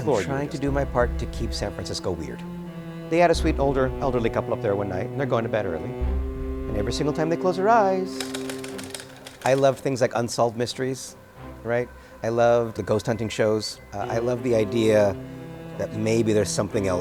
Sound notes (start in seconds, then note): 8.2 tapping